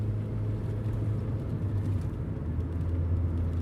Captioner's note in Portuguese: none